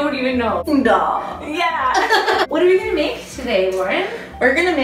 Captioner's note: laughs